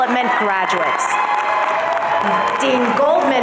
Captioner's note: audience cheering